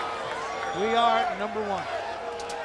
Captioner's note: crowd chatter